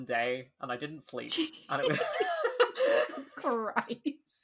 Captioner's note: laughing